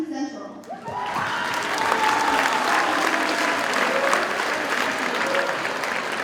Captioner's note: audience cheers and applauds